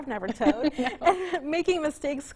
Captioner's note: both chuckle